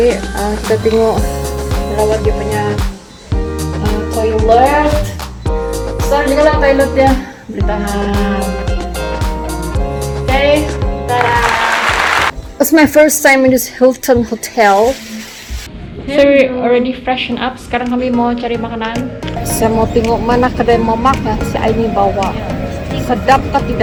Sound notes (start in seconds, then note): 11.1 hand clapping